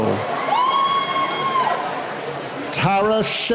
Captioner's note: cheering